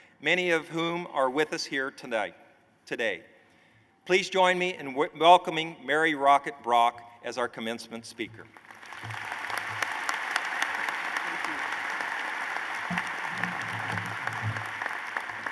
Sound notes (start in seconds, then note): 8.4 applause